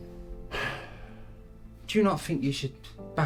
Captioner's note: sighs